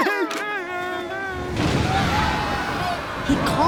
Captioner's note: happy sounds; thunder; screaming